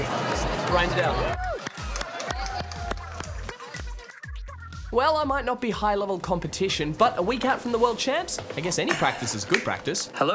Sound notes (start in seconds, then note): 0.0 cheering, applause